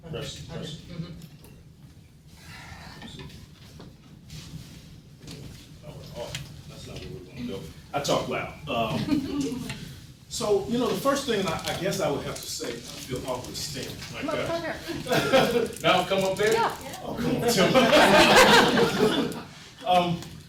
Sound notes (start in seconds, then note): 14.8 laughing; 17.5 laughing drowns out speaker